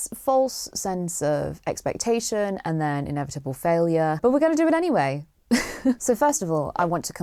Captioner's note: chuckles